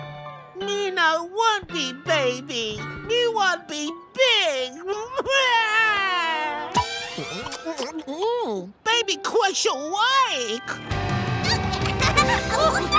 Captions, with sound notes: Me no want be baby. Me want be big! [crying] Hmm, Baby Crusher like. [giggling]